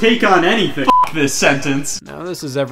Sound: beep

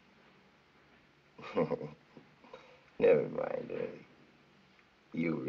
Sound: chuckles

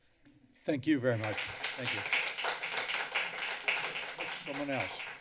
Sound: applause

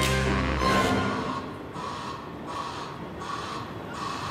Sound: cart beeping

